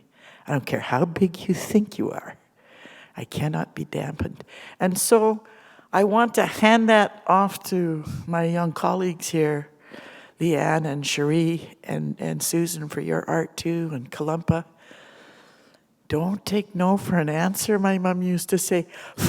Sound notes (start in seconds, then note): none